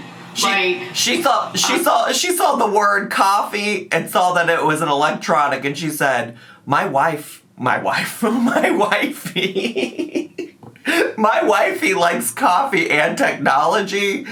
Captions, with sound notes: She saw the word coffee, and saw that it was an electronic, and said "My wife," my wife? (laughing) "My wifey likes coffee and technology,